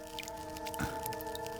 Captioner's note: scratching